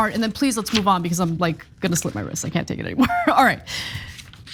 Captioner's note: laugh